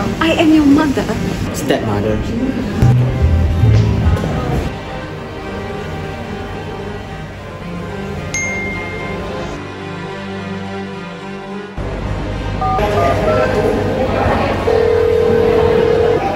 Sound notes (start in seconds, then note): 8.4 message Notification